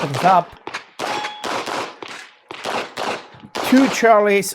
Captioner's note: gunshots banging continues